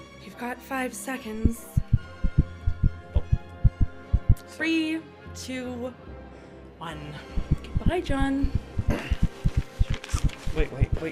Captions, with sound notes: You've got five seconds. [heart beats] Three, two, one. Goodbye, John. [heart beats escalating] Wait, wait, wait.